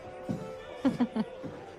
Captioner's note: chuckles